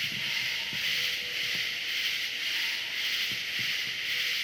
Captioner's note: multiple distant animal screeches